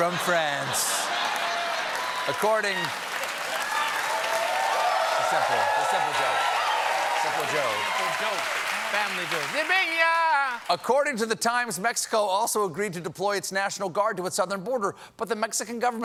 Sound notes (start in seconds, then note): 3.1 cheers and applause; 3.1 laughter